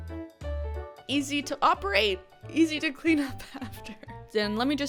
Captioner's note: chuckles